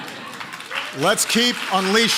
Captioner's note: applause